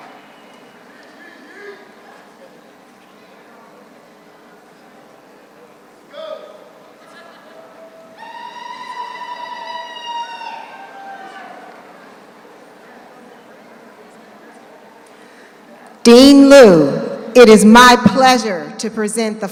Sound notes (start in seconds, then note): 7.1 woman laughs; 8.6 man hollers